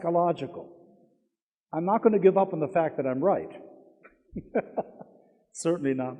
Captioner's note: chuckles